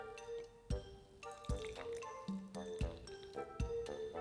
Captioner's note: liquid pouring